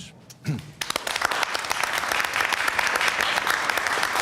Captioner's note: applause